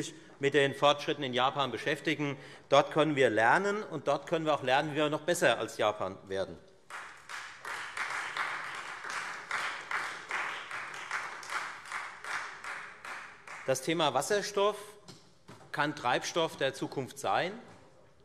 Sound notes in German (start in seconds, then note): 6.8 Beifall Freie Demokraten